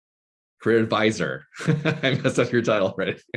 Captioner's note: laughing